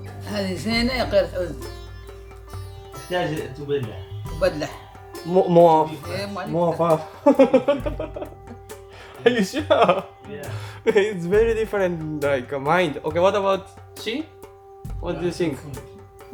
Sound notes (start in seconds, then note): 10.1 laughs